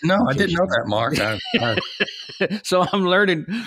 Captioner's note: laughing